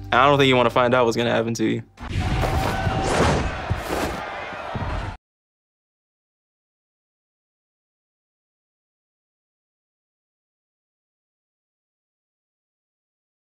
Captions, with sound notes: I don't think you wanna find out what's gonna happen to you. (clothes rustling)